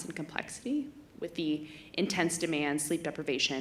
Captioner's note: none